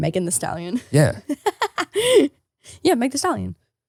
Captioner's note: laughing